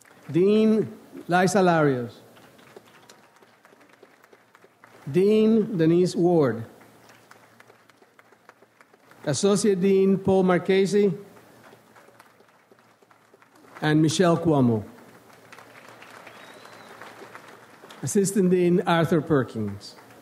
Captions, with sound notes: Dean, Liza Larios. Dean, Denise Ward. Associate Dean, Paul Marchese. And Michele Cuomo. (audience applauds) Assistant Dean, Arthur Perkins.